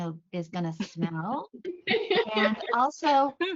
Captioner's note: laughter